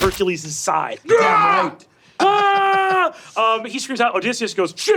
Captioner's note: screaming in pain